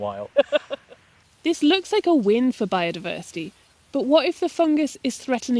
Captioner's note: laughs